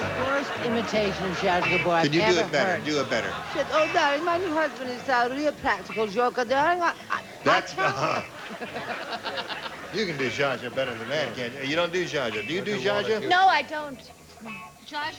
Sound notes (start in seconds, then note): 3.8 imitating zsa zsa gabor; 7.0 stammering; 9.1 laughs